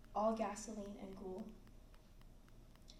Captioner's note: none